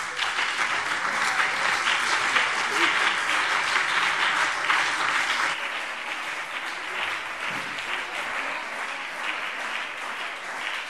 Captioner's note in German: Anhaltender Beifall CDU und BÜNDNIS 90/DIE GRÜNEN